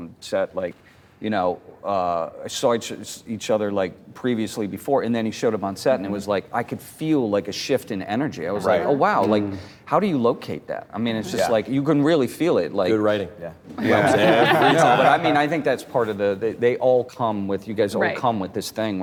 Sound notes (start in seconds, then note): 13.8 laughter